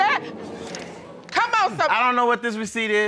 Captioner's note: audience gasps